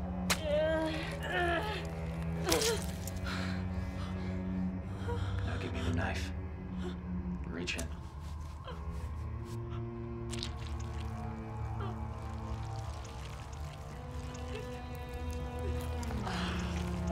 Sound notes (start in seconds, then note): 0.3 slicing, grunting; 10.2 squelching; 16.9 Cherise whimpering